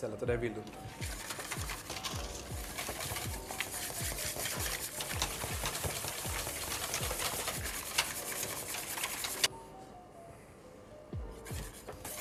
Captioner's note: whisking